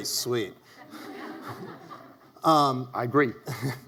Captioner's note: audience laughs